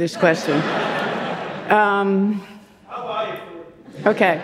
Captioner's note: audience laughing